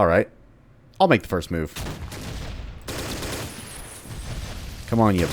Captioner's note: M16 firing